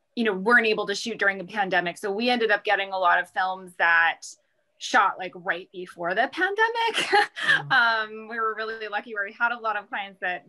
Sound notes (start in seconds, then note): 7.4 chuckles